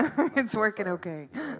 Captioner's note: laughs